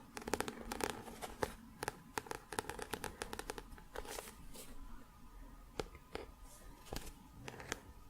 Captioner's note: tapping on book